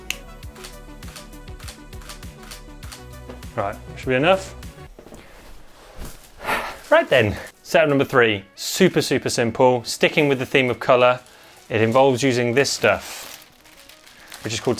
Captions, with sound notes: Right, that should be enough. [SIGH] Right then. Setup number three, super super simple. Sticking with the theme of colour, it involves using this stuff which is called